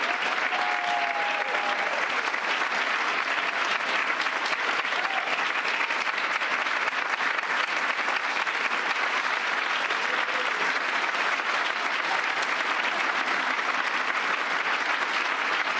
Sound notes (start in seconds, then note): 0.5 applause; 9.0 cheers and applause